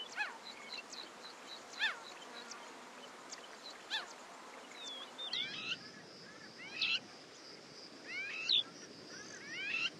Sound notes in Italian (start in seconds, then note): 4.7 cinguettii